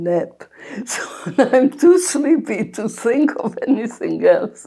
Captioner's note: laughing